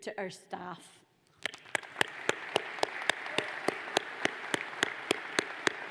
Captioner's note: audience applauds